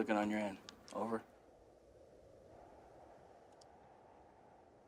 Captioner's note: wind blowing